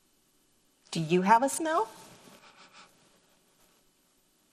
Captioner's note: sniffs